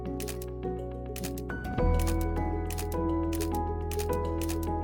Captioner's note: camera shutter clicking